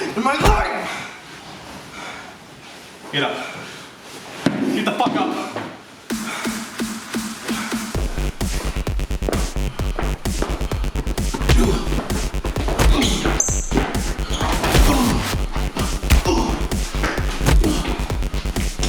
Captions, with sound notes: For Jonathan. (foot kicking) And my life! (foot kicking) (Ethan breathing heavily) Get up. (fist punching) Get the fuck up. (dramatic music)